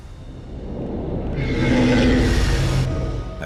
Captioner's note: screeches